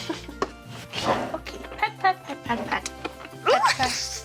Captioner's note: pat pat pat pat pat